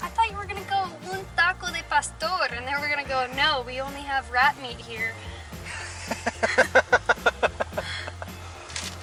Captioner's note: laughter